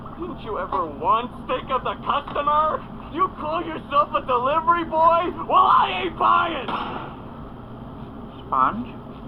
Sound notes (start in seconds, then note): 6.6 door Slams